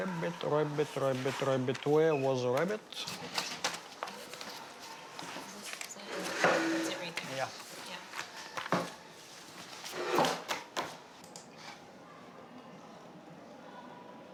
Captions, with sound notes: - Rabbit, Rabbit, Rabbit, Rabbit, where was Rabbit? (papers rustling) - Is that it? (chair scraping) That's it right there. - Yeah. - Yeah. (chair scraping) (papers tapping on desk)